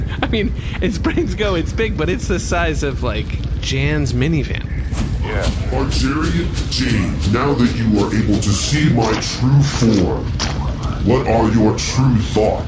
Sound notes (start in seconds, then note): 0.0 laughing; 6.0 squelching